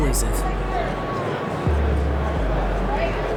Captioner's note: crowd noise